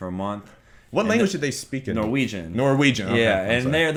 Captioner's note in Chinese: 挪威语